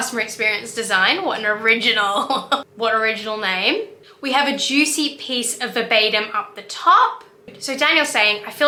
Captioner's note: laughs